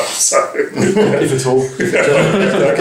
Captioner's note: laughter